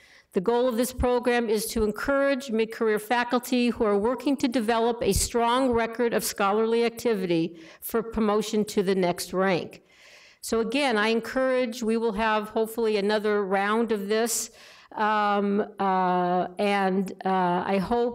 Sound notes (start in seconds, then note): none